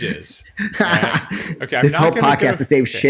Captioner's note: laughing